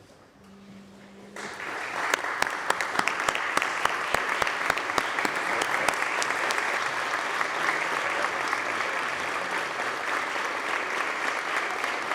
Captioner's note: applause